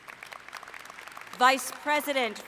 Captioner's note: applause